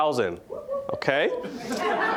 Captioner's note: audience laughing; scattered cheering